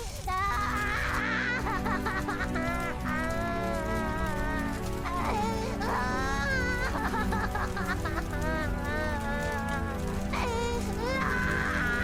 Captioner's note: wailing and crying hysterically